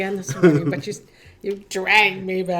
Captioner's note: laughing